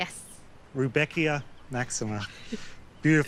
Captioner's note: chuckles